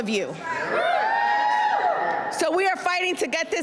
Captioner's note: cheers and applause